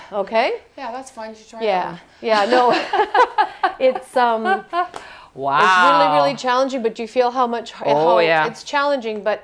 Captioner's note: laughter